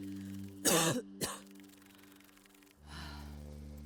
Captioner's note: Lock coughs